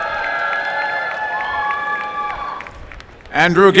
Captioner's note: applause and cheering